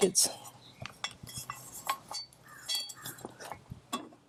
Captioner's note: metal clanging